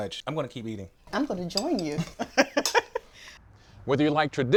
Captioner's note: laughs